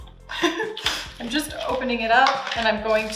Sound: laughs

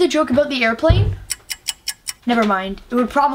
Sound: clock ticking

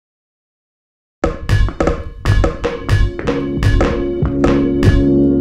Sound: balls thumping

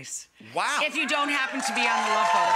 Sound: audience cheer

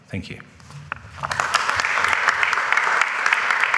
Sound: applause

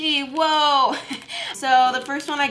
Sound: giggles

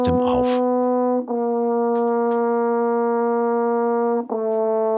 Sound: dark sounds

